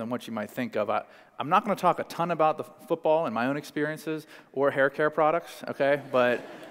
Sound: laughter

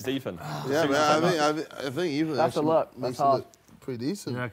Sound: group chattering

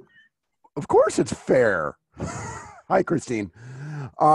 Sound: laughing

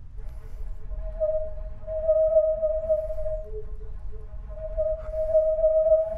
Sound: whistling sound

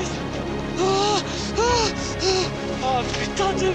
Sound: short breathed

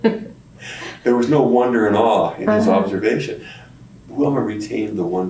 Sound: laughter

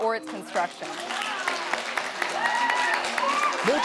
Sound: audience cheering

